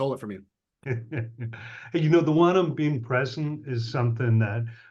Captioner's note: laughs